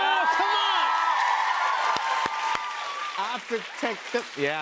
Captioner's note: cheers and applause